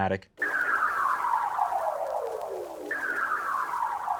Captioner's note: electronic whistling